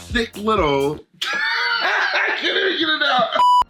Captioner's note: laughs